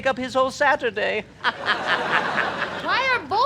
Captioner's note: evil laughter